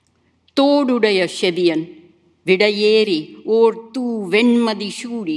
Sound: speaks in Tamil language

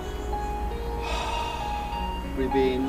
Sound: exhales

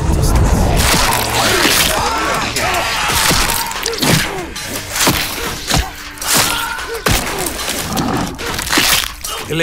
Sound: yelling

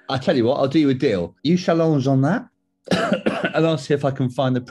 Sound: coughs

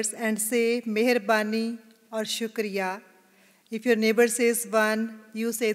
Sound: non-English phrase

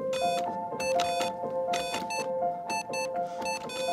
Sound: device beeping

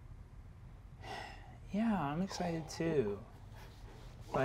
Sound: sighs gently

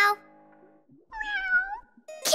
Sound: meowing

